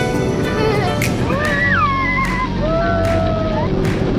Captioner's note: family screams